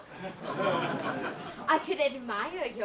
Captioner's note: audience laughs